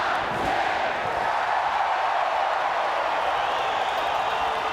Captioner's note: crowd cheering